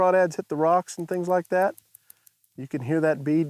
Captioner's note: bead clacking